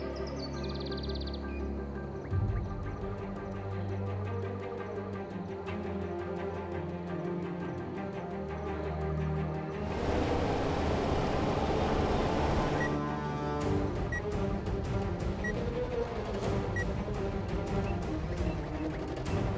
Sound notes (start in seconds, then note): 11.8 slow bleeping; 16.4 urgent music